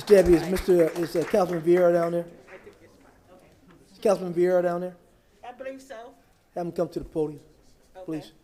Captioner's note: applause